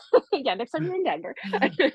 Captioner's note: laughs